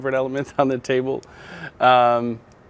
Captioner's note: chuckling